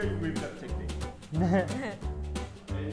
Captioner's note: giggling from first compliment of the day